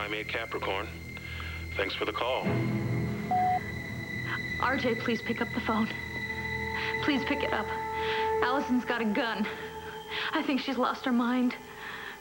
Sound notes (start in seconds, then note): 3.3 answering machine beeps